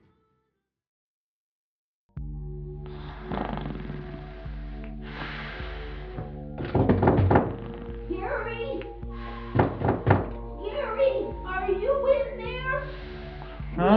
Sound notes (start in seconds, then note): 2.8 snoring; 6.6 knock on door